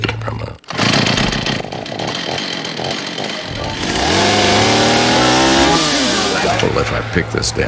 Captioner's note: chainsaw